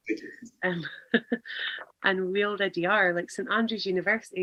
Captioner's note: laughs